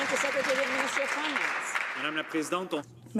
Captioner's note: some Applause